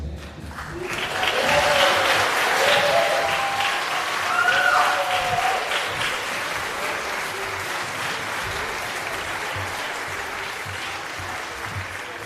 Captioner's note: applause